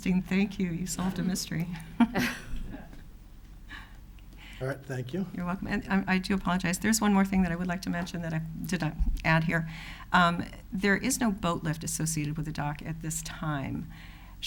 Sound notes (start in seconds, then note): 1.5 chuckles